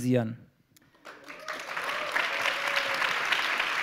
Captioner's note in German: Applaus